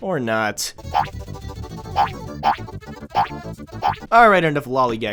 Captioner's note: cartoon spring sounds